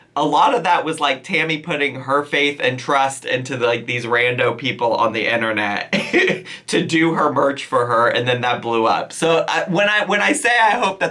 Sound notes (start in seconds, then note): 5.9 chuckles